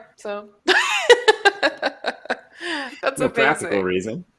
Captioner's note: laughs